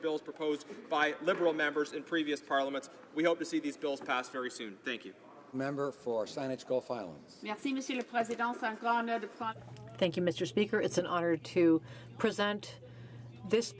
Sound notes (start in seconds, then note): 11.3 speaking French